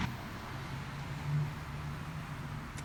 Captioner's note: car noises